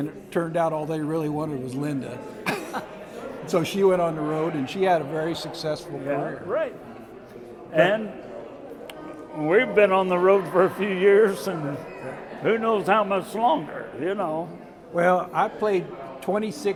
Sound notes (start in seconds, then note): 2.4 chuckle